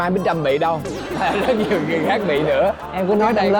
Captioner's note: laughing